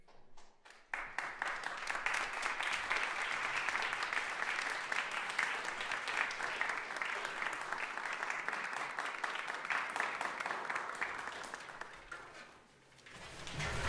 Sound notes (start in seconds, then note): 0.4 applause